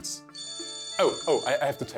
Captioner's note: phone ringing